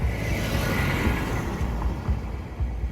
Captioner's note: sound: Car passing